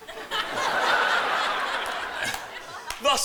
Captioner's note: romeo coughs